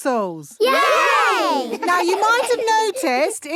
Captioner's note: laughing